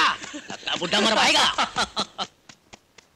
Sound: laughs

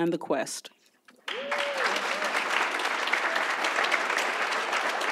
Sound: audience applauds

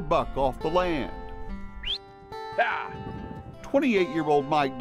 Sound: whistle

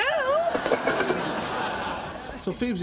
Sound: audience laughing

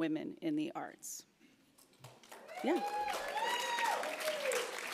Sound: applauds; cheers

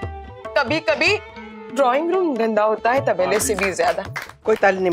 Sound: claps

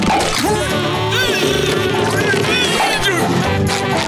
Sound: grunting

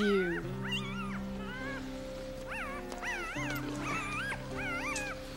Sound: puppies squealing

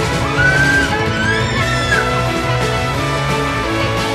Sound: child screaming

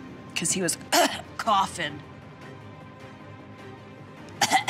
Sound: coughs

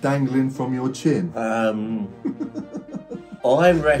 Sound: laughing

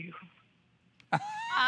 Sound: laughter

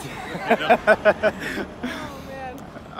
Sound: laughter

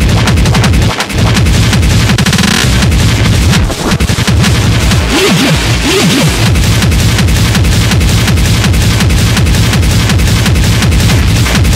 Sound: crowbar

